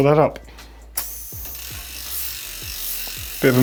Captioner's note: air hisses